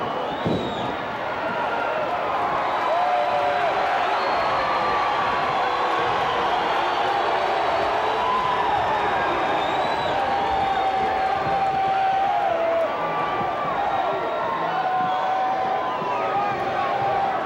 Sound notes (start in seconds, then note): 7.8 boos